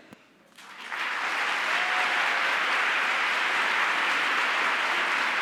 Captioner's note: audience applauds